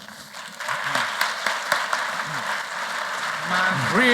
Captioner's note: applause